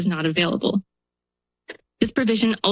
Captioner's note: pause